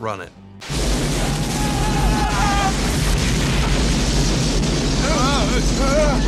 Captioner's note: explosion rumbling; men yelling